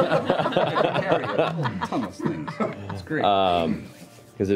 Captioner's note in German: Lachen